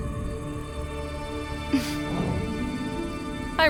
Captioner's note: Anastasia exhales